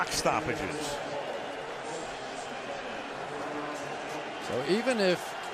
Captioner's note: pa announcement